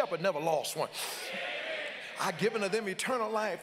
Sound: congregants call out

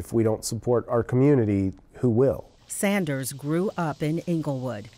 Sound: voiceover

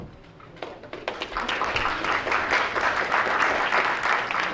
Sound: crowd applauds

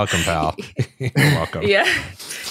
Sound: chuckling

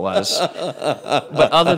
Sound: laughing

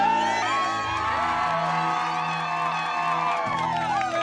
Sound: crowd cheering

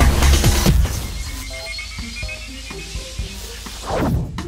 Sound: electricity buzzing

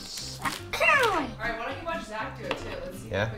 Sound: yells

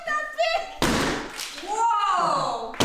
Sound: wall breaks

